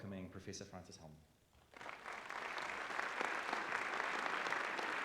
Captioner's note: applause